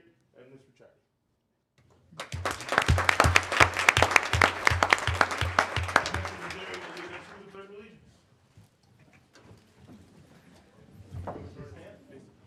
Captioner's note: applause